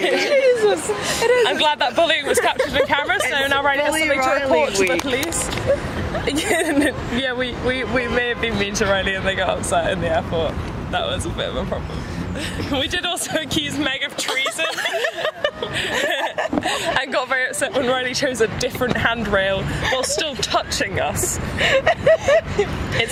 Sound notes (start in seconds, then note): 14.2 laugh; 21.2 laugh